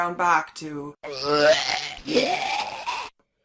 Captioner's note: vomiting Sound FX